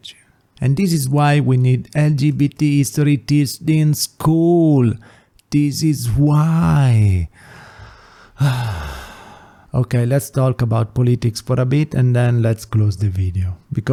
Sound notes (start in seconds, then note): 7.4 sigh